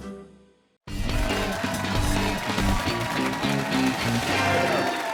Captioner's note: cheers and applause